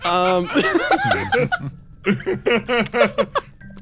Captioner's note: laughs